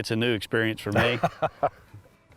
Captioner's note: laughs